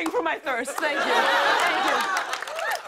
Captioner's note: laughter